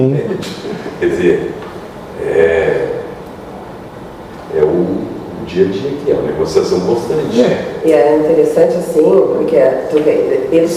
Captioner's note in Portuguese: gemido